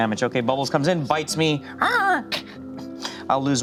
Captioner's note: imitates monkey